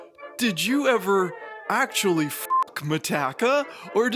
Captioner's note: none